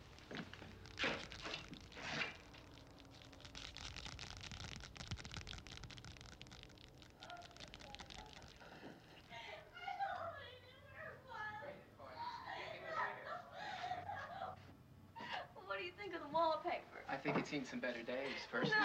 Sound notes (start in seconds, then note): 0.5 skittering sound; 6.8 talking and laughing